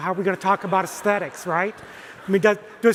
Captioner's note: audience erupts into laughter